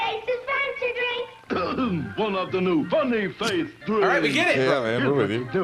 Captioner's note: clears throat